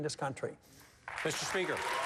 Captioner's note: applause